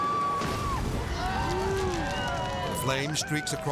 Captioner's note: friend cheering; friends cheering; flame roars